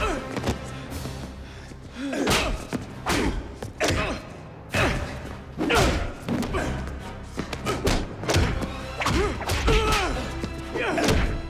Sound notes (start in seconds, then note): 0.0 Dalton and Gammon grunting; 2.7 punches thudding